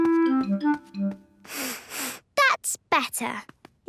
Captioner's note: sniffs